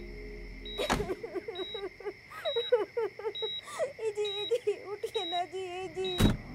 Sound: lady Sobbing

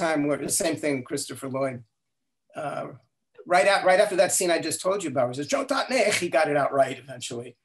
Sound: speaking in Klingon

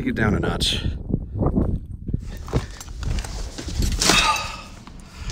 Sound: wind blowing

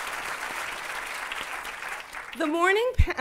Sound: applause

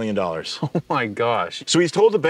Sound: laughs

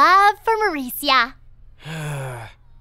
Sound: groans

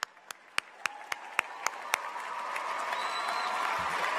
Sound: applause

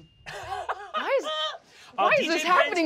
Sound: laughing

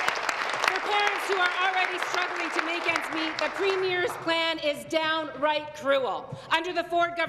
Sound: applause

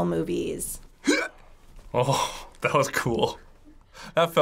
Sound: grunts

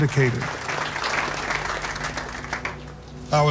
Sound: applause

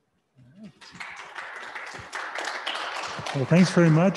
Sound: audience clapping

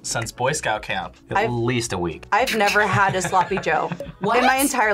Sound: laughs

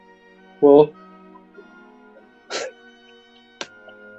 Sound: chuckling

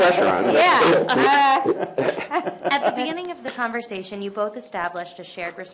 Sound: laughter

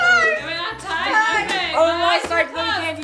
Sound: family cross chattering

